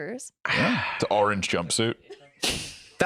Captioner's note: sighs